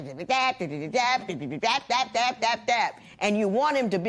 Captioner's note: imitating nagging